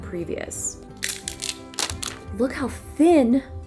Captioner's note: plastic crinkles